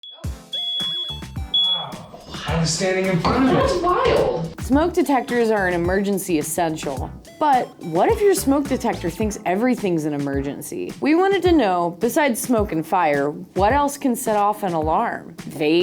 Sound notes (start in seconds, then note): 0.4 beep